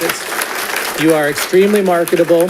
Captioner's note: audience applauding